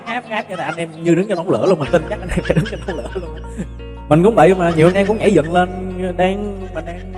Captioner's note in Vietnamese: Tiếng cười